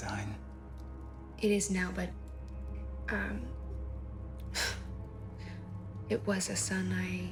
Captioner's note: sighs